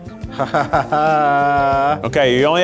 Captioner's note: chuckles